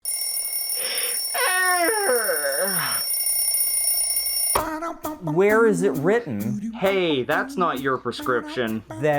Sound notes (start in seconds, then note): 0.0 alarm Clock; 1.3 yawning